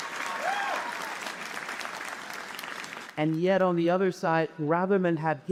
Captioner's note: applause; cheers and applause